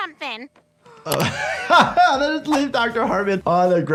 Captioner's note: laughing